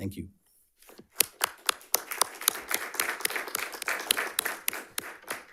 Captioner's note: audience applauding